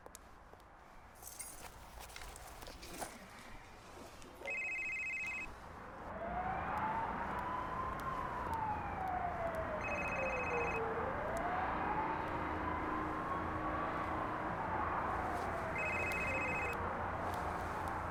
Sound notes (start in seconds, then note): 9.8 ringing continues